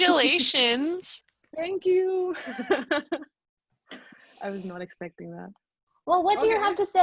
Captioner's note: laughs